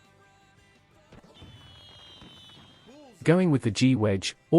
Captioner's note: fireworks popping